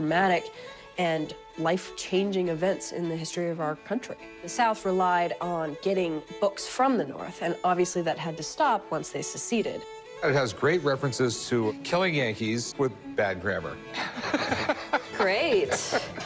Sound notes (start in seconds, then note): 13.9 laughs